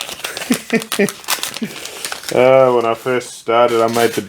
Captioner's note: laughs